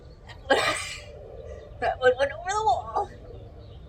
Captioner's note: laughs